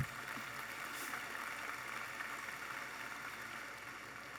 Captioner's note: audience applauding